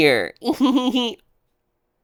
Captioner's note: laughs